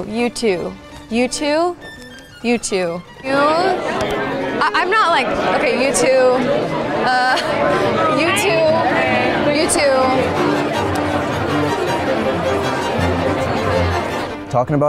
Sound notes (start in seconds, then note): 6.8 participants chattering; 10.1 tense dramatic music; 11.2 participants chattering